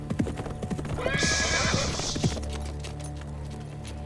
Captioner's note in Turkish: At kişniyor